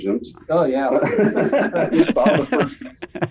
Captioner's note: all laughing